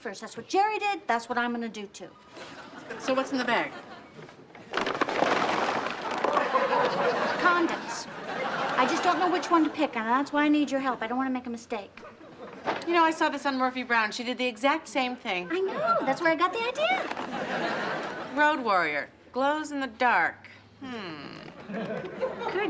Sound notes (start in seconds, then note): 4.1 boxes fall; 5.8 audience laughs